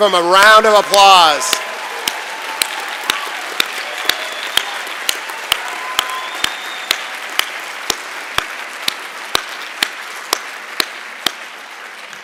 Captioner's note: cheering and Applause